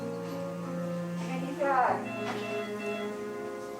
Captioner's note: machine beeps